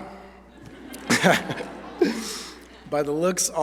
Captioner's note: laughter